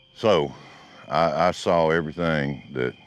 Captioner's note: none